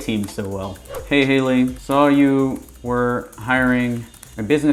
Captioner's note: keyboard typing